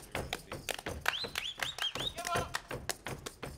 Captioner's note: feet stomping and hands clapping; whistling; feet stomping and hands clapping